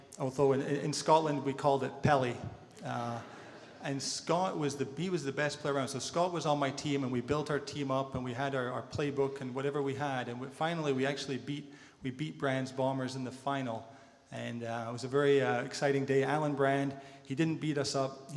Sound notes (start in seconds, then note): 3.0 audience laughter